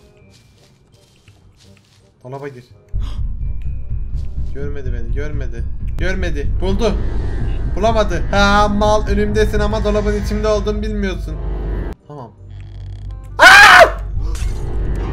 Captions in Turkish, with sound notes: Dolaba Gir Hıığh Görmedi Beni Görmedi Görmedi Buldu Bulamadı Hee Mal Önümdesin Ama Dolabın İçinde Olduğumu Bilmiyorsun Tamam (Çığlık)